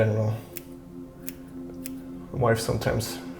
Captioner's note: scissors snipping